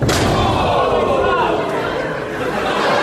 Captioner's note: yells; body slams into mat; audience laughs